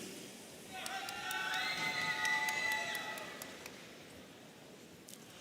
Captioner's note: audience cheering